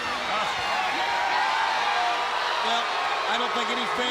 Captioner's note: crowd cheers